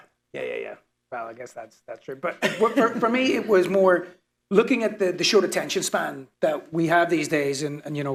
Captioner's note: laughter